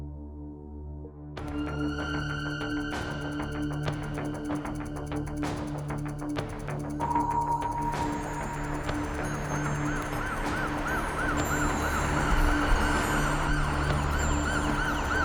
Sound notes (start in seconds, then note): 1.7 suspenseful music; 9.0 police siren in the distance